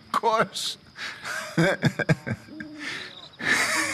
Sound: Hosea laughs

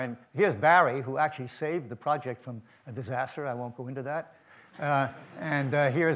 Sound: audience laughs

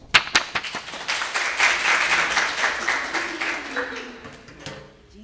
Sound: audience applauding

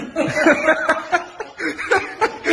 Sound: laughter

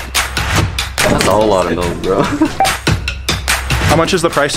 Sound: laughs

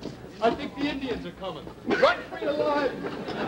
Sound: audience laughter

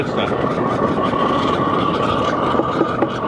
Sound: fire roaring; tapping

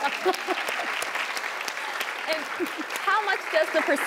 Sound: audience applause

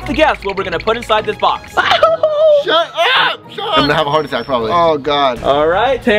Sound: laughs

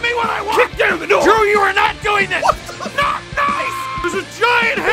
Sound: Harry potter screaming; screaming

